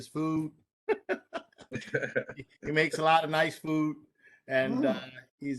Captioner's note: laughter